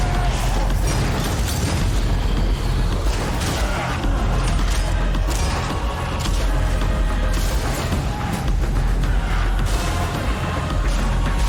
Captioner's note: sound of gunfire